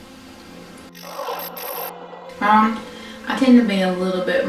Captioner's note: static fizzing